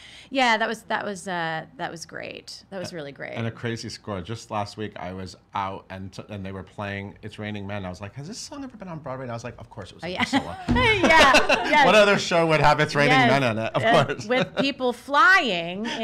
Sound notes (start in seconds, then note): 10.3 laughs